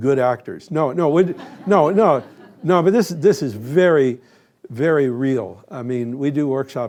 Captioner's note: laugher